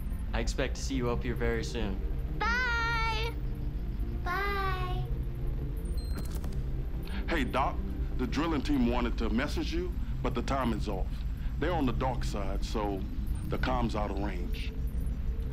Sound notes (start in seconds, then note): 6.0 computer beeps and clicks